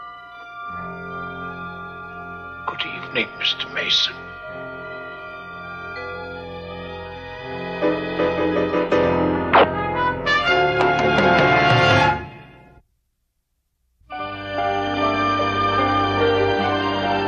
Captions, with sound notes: (tense music) - Good evening mister Mason. (gun firing) (tense music)